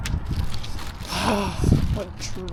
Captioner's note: sigh